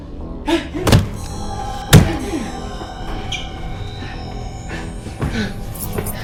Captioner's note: grunting; smashing; keys rattling